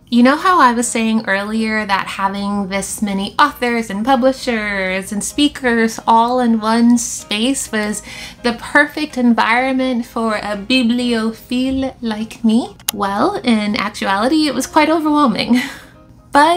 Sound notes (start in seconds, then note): 11.0 French accent